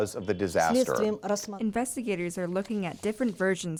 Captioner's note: through translator